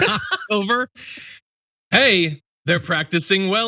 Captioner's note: laugh